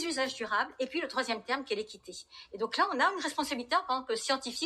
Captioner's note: speaking in Spanish